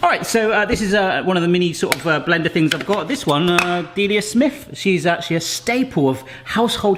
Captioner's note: none